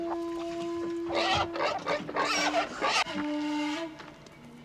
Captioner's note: pigs grunting